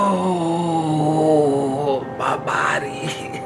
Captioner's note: groans